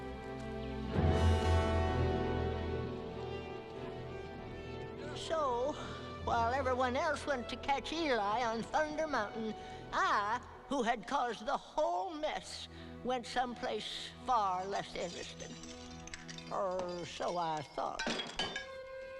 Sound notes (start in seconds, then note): 0.0 brief foreboding music; 2.4 hooves thudding quickly; 17.9 objects clattering; 18.9 low tense music